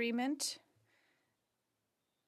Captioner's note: speaking French